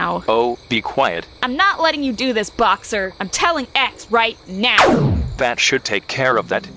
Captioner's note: laser